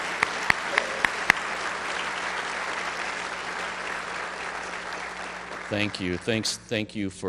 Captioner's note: applause